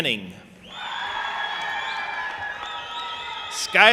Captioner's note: audience applauding and cheering